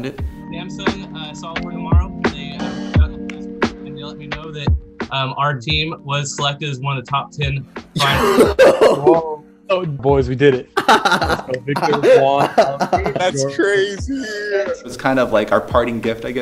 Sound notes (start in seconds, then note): 10.7 laughing